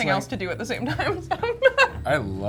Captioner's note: chuckles